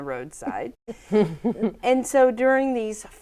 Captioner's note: laughing